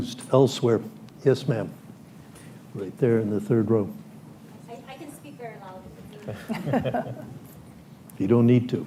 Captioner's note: laughter